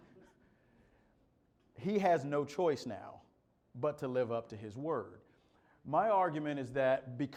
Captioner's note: laughter